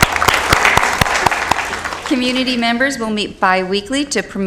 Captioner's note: applause